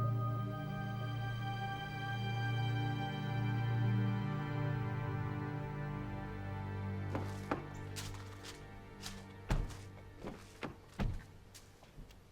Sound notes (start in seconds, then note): 7.1 doors click and thud